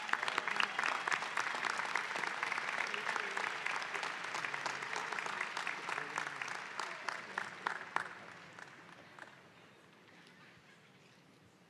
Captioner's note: applause